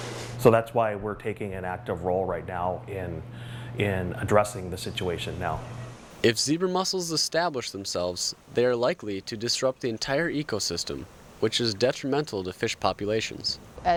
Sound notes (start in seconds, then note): 6.3 voiceover